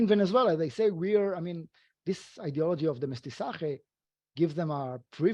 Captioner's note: speaking foreign language